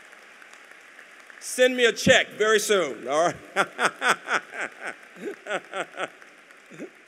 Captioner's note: applause; laughs